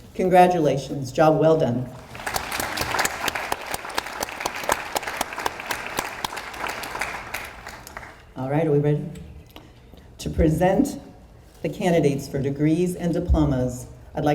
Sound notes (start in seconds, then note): 2.0 audience applauds